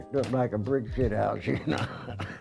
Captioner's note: laughter